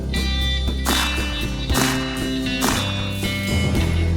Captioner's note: gun firing